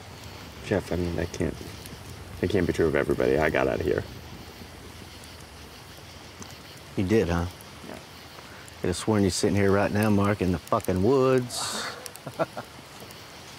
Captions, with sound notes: Jeff, I mean that can't be true of everybody. I got out of here. You did, huh? Yeah. Coulda sworn you was sittin' here right now, Mark, in the fuckin' woods. (Mark nervously laughs)